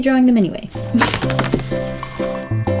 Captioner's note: fingers tapping on sketchbook